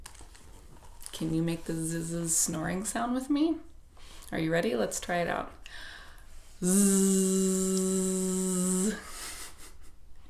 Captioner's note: snoring sound